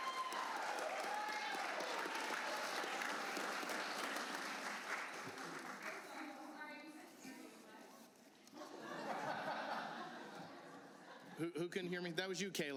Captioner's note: cheers and applause